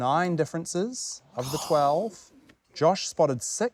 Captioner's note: josh groans